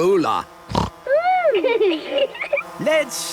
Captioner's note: snorting; laughter